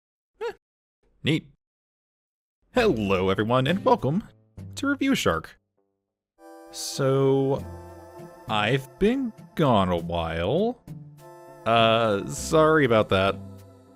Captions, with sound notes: Huh. Neat. Hello everyone, and welcome to Review Shark! So... *Guiltily* I've been gone a while... Uh...sorry about that.